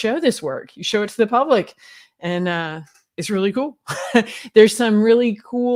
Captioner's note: giggles